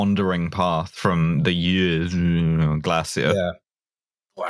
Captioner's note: danish noises